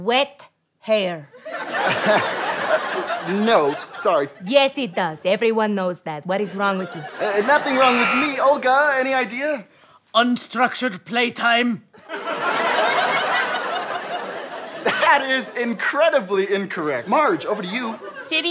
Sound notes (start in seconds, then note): 1.4 audience laughter; 12.0 audience laughter